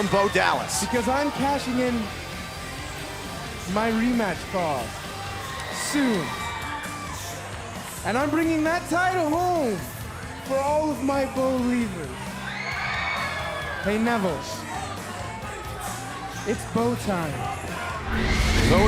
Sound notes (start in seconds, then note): 11.3 cheers and applause